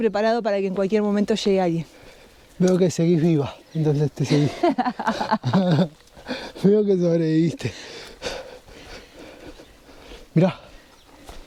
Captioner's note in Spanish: risas